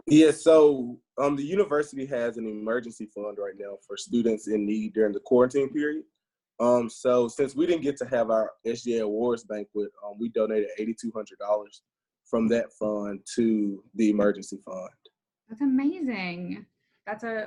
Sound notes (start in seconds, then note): none